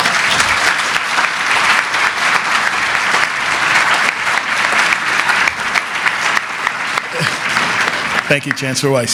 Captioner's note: applause